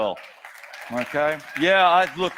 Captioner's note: audience cheers